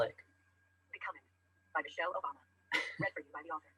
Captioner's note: voiceover; laughs